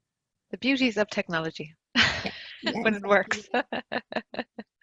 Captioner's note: laughs